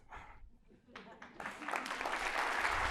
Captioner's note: applause